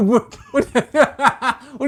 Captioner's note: laughing